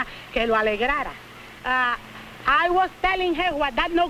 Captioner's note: speaking spanish